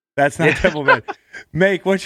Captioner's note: Sean laughs